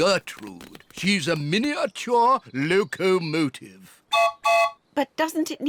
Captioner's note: toots whistle